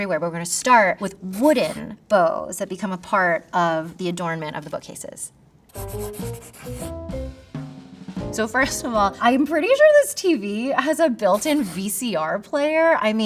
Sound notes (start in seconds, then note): 5.7 graphic scratching; 5.8 upbeat music